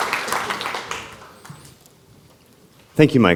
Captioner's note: applause